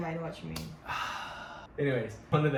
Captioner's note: deep sigh